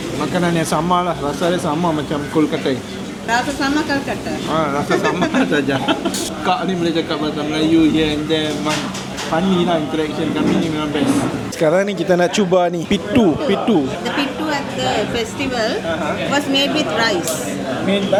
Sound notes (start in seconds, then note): 4.8 laugh